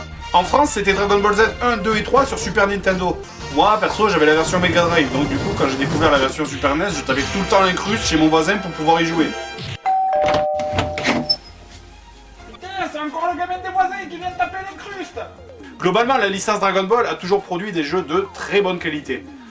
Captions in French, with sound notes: En France c'était Dragon Ball Z 1, 2 et 3 sur Super Nintendo. Moi, perso, j'avais la version MegaDrive. Du coup, quand j'ai découvert la version Super NES, je tapais tout le temps l'incruste chez mon voisin pour pouvoir y jouer. *Ding dong* *La porte s'ouvre* Putain, c'est encore le gamin des voisins qui vient taper l'incruste ! Globalement la licence Dragon Ball a toujours produit des jeux de très bonne qualité.